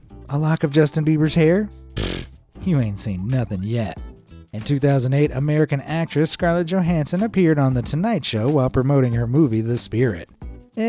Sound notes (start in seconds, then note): 2.0 scoffs